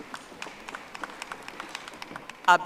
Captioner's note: audience applauding